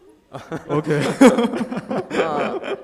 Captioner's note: laughing